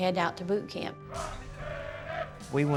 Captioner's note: chanting